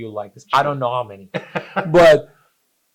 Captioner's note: laughs